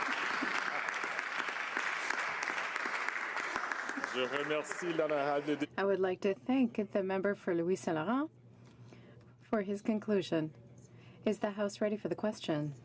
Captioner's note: some applause